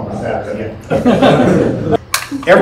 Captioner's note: laughter